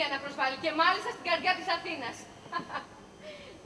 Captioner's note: γέλιο